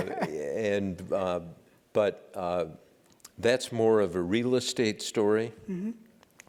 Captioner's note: laugh